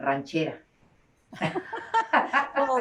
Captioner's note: laughter